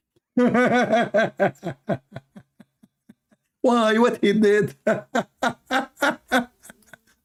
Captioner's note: Ketawa